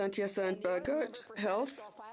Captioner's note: speaking French